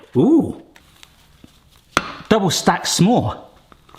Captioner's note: none